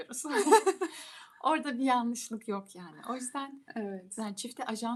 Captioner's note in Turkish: kahkaha